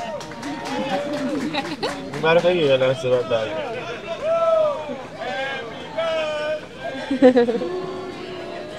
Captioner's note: applause